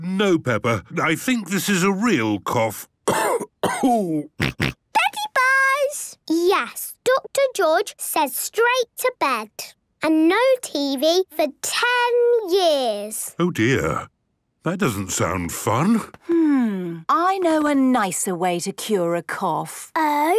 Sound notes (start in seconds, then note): 3.0 cough; 4.4 snort